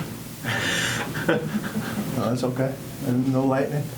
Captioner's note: laughs